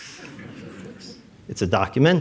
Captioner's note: audience laughs